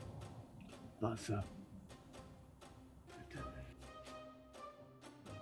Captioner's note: hostage responds in German